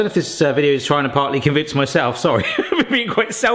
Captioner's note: laughing